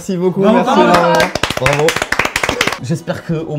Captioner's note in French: applaudissements